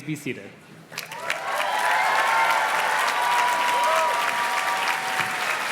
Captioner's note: audience cheers and claps